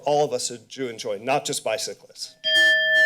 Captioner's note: bell rings